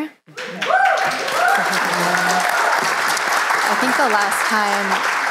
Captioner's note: applause